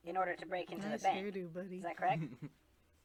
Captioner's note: giggles